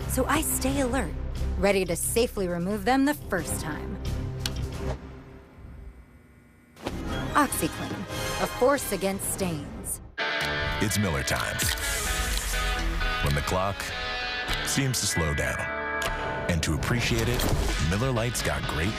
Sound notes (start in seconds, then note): 4.4 click